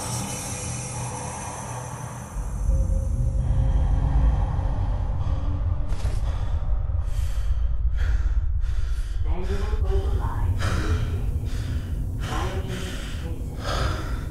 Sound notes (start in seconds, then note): 0.0 steady breathing; 5.7 more rapid breathing